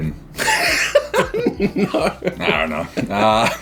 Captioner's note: all laughing